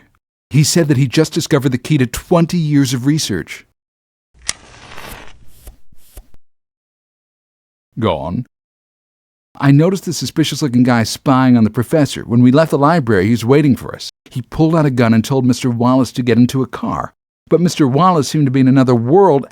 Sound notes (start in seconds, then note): 4.4 match strike; 5.1 puffs on pipe